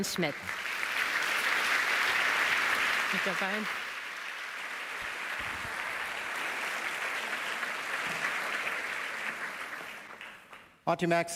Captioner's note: applause